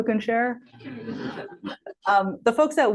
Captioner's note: laughter